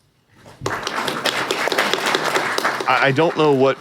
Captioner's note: applause; audience applauding